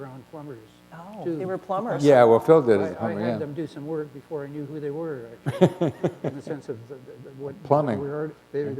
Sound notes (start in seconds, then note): 5.4 laughter